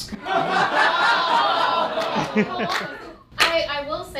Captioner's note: audience laughing